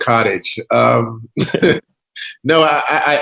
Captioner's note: laughs